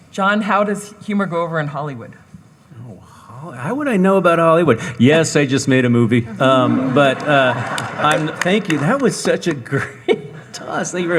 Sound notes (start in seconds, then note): 6.5 audience applauding